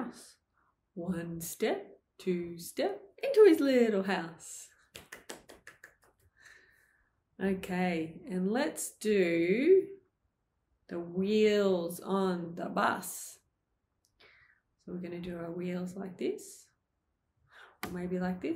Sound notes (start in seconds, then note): 4.9 clapping